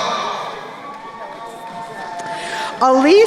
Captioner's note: crowd cheering